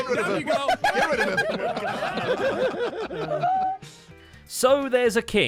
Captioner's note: everyone laughing and chattering